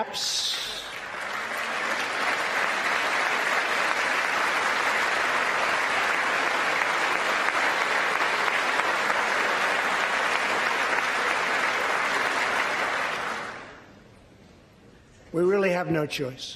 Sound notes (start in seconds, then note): 4.7 applause